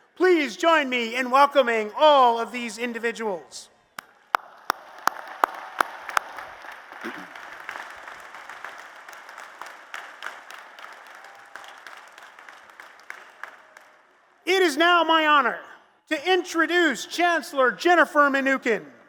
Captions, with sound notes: Please join me in welcoming all of these individuals. [ Applause ] It is now my honor to introduce Chancellor Jennifer Mnookin.